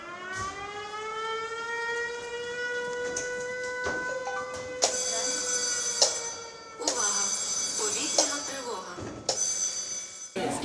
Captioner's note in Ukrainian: Лунає сирена і голосова сповіщення «Увага! Повітряна тривога!»